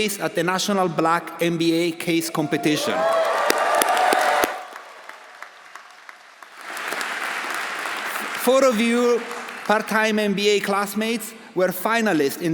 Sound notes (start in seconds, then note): 2.4 audience cheering; 2.5 audience applauding